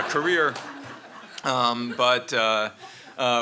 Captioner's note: laughter